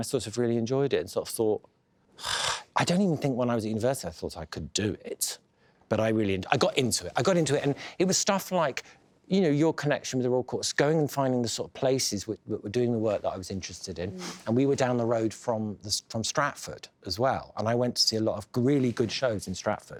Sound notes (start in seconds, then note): 2.2 sighs